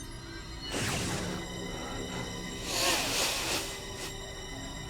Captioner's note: gasps